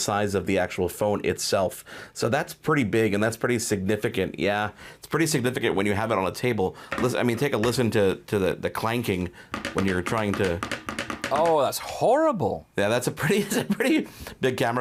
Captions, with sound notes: of the actual phone itself. So that's pretty big and that's pretty significant, yeah, it's pretty significant when you have it on a table, I mean, take a listen to the clanking when you're trying to, (phone clanking) Oh, that's horrible. Yeah, that's a pretty big camera bump,